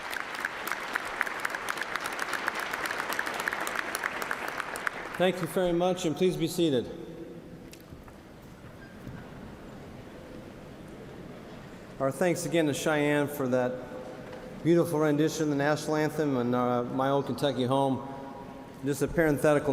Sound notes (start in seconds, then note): 5.0 applause